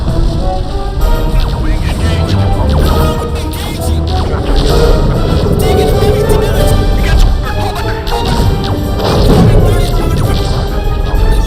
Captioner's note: overlapping male voices over radios